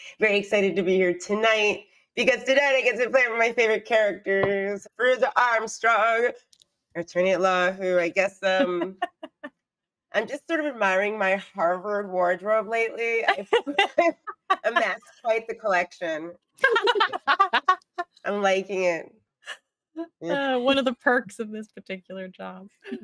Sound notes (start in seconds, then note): 13.1 Deborah laughs; 16.6 Deborah laughs